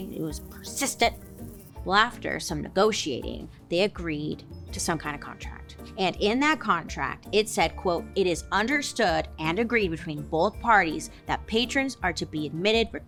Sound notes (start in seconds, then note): none